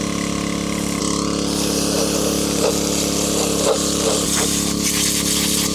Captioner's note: motor whirring